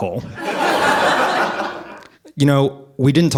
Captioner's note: audience laughing